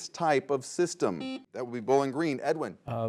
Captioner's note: buzzer buzzes